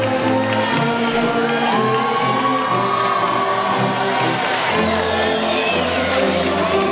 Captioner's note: audience faintly shouting and cheering